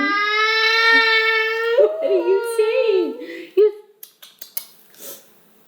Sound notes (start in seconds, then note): 0.0 vocalizing; 4.0 lips kissing